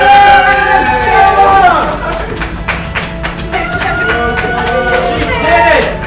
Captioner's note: cheering